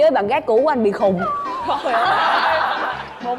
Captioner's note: laughing